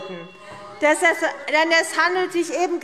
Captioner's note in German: Zurufe - Glockenzeichen